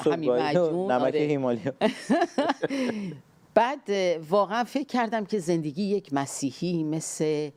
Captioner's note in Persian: خنده